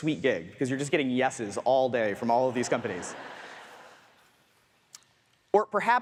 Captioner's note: audience laughs